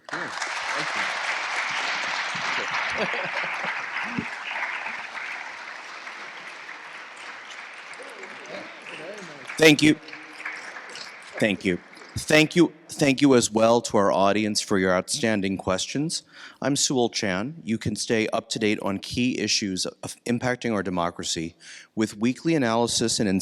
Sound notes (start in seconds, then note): 0.1 attendees applauding; 10.8 attendees applauding